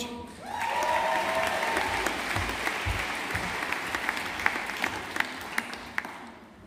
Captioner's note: audience applauding